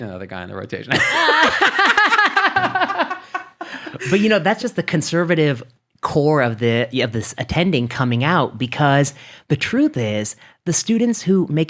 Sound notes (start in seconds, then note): 0.9 laughing